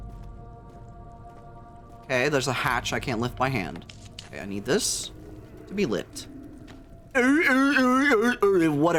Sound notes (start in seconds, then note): 6.3 distant grunts; 7.1 grunts sarcastically